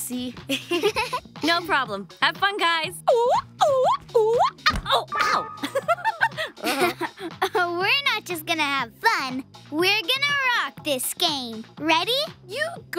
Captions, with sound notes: No problem. Have fun, guys. [goofy hooting] Oh, ow! [laugh] We're not just gonna have fun-- We're gonna rock this game. -Ready? -You go first.